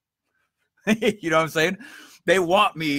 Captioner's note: laughs